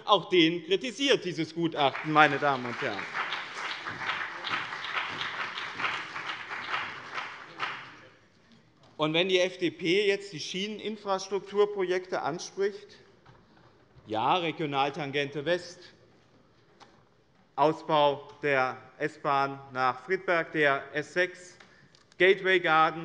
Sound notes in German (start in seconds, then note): 3.8 Beifall bei dem BÜNDNIS 90/DIE GRÜNEN und der CDU